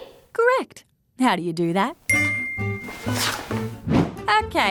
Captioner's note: ping!